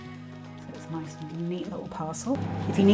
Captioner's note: microwave whirring